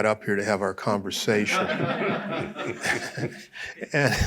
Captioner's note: laughter